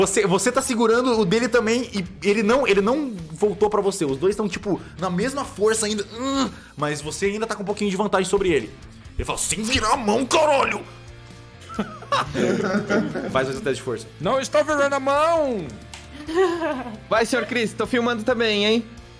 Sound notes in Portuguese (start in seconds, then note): 11.6 risos